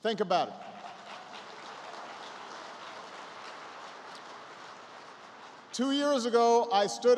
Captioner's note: applause